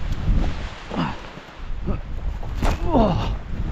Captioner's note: grunting